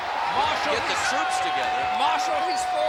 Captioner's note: crowd cheering